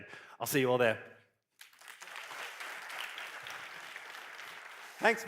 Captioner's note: applause